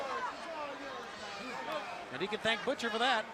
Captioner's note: crowd chatter